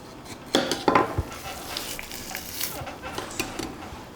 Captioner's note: rib eye squelching